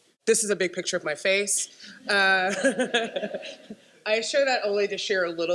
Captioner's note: laughter